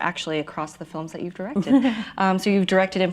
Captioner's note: laughs